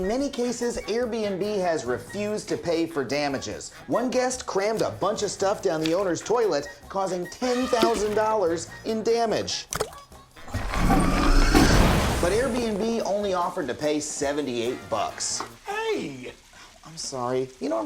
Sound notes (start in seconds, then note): 9.7 plopping; 10.4 flushing